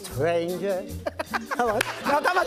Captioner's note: laughs